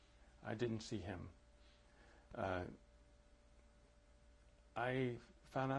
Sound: pauses for 3 seconds

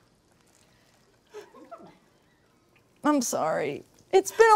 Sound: crew laughing

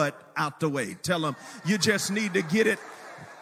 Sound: congregation laughs

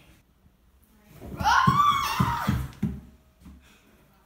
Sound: screaming

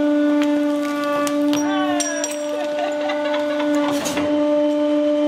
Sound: laughing

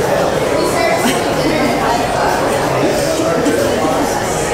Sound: laughs

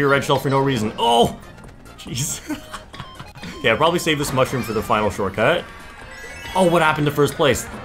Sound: laughs

